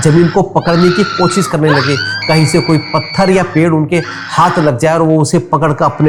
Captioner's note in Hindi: चीखने की आवाज़